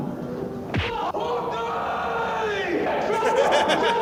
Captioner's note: shouting; laughter